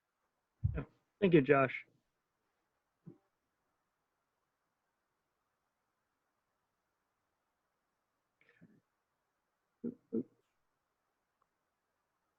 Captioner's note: pause